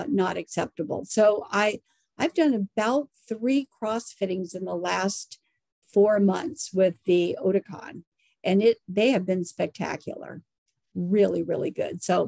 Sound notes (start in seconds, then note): none